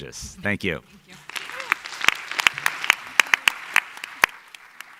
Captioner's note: audience applauding